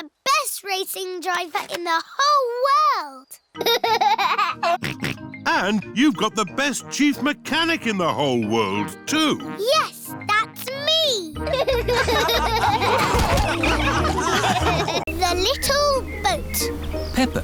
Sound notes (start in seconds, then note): 3.6 laughs and snorts; 11.4 all laughing